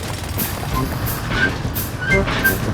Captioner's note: drilling